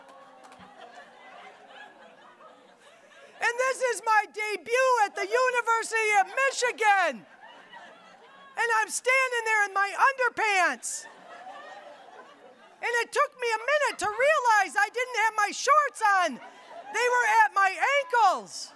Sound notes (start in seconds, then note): 0.0 audience laughing; 7.7 audience laughing